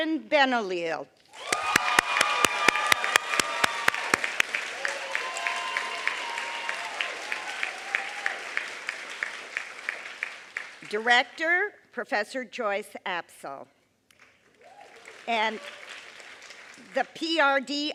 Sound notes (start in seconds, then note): 14.2 applause